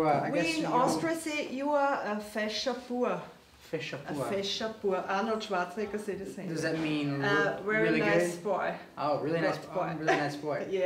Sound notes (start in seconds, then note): 2.4 german